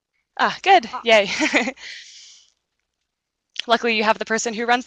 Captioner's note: chuckles